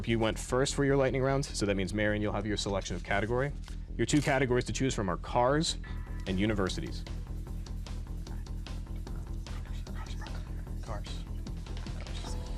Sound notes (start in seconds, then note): 5.8 intense music; 7.2 whispering